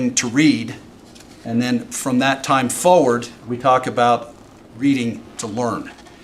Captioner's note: none